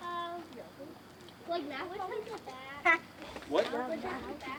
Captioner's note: children chatter